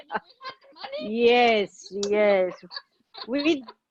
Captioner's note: laughing; internet warble